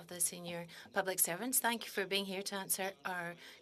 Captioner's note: speaking in French